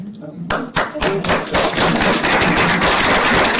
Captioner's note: applause